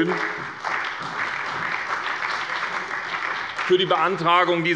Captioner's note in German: Beifall bei der SPD, der CDU, dem BÜNDNIS 90/DIE GRÜNEN und der FDP